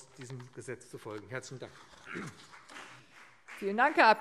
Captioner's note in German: Beifall BÜNDNIS 90/DIE GRÜNEN